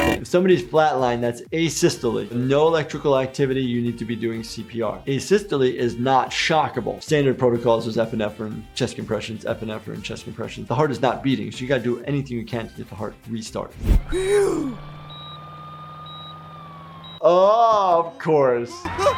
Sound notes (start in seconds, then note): 14.9 monitor beeping